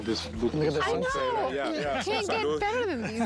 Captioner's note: laughs